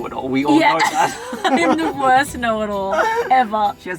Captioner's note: laughing